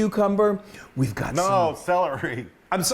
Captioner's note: laugh